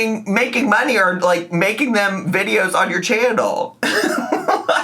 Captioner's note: laughs